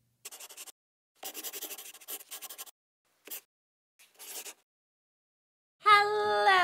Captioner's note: the sound of a pen scratching